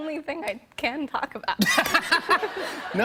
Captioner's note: laughter